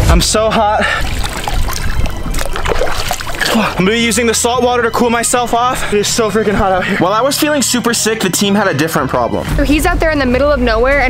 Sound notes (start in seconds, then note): 0.8 water splashing